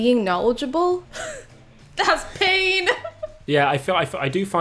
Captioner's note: scoffs